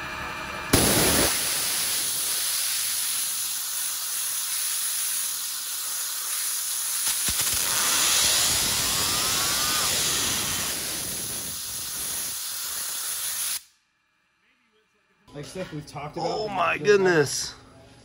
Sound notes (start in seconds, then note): 0.8 water splashes violently; 7.3 motor spins rapidly